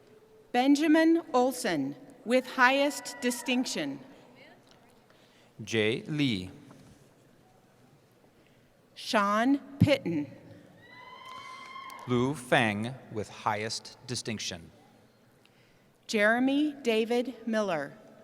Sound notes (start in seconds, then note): 10.8 cheering